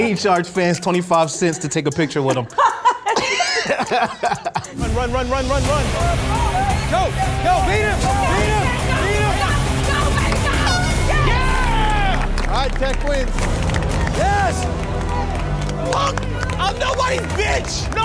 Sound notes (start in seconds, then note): 1.7 all laughing; 8.4 everyone cheering; 10.5 horn beeping; 11.4 everyone cheering